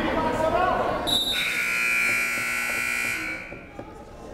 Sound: buzzer

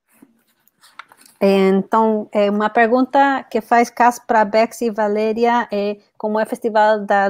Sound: foreign spanish

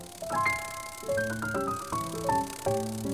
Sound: soft fluttering noise

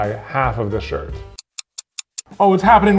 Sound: clock ticking

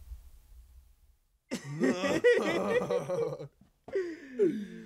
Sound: both laughing

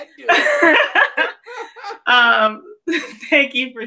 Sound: laughs

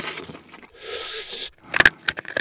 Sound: slurp

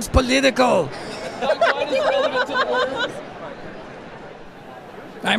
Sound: laughing

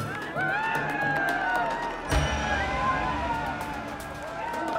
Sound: crowd cheering

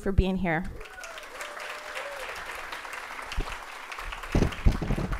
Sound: audience applauding

